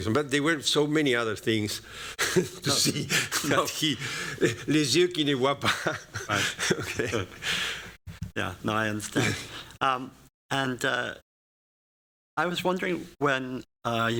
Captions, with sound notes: But there were so many other things to see that he-- [speaking french] Yeah. No, I understand. And I was wondering, when you were